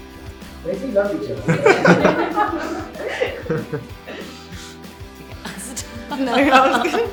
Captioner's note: laughs